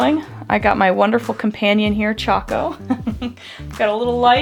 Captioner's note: giggles